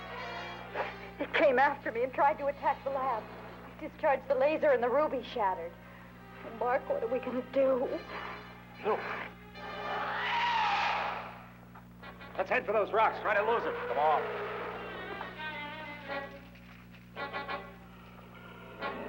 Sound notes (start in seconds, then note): 9.6 screeching